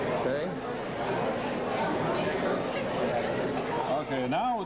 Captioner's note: restaurant chatter